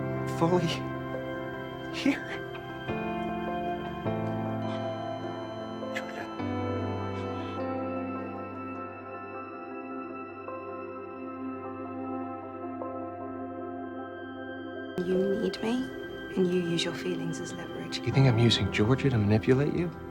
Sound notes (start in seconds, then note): 0.6 voiceover; 3.6 monitor beeping